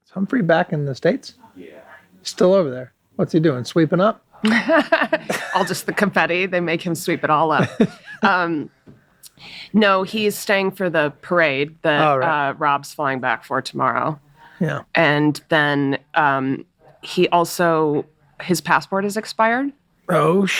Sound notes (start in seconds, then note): 4.4 laughs; 7.6 Charlie laughs